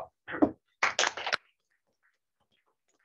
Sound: applause

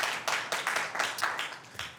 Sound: applause

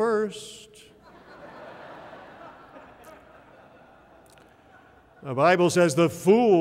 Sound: laughter

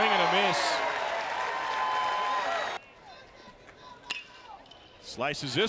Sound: crowd

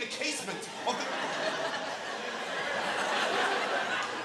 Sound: audience laughing

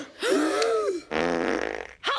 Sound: gasping; passing gas

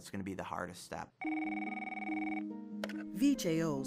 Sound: telephone rings

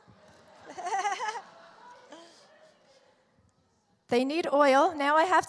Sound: laughing

